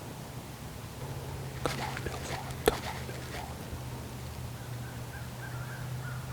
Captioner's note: whispering